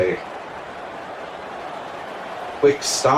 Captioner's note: crowd Noises